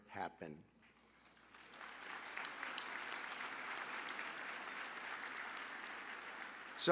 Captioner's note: applause